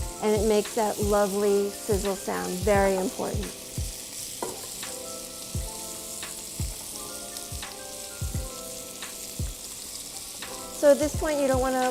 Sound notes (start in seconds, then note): 5.4 beef sizzles